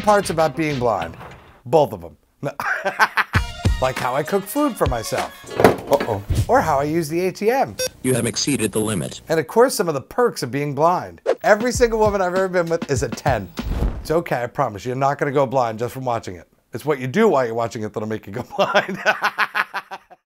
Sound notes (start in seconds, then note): 2.6 laughs; 5.0 beer bottle knocked over; 7.8 beep; 18.6 laughs